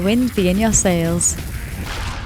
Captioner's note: explosion